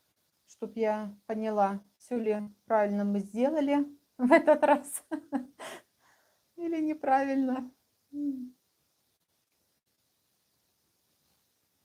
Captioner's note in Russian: смех